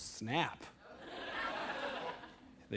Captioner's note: laughter